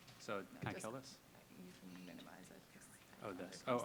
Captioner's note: whispering; woman whispering